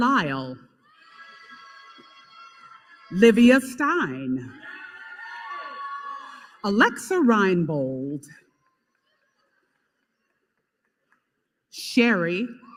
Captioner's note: applause